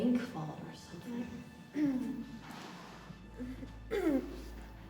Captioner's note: billie groans